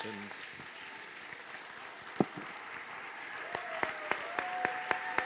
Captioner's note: cheers and applause